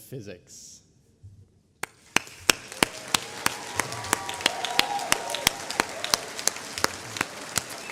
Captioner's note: applause